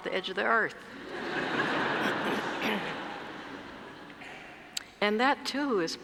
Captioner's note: laugh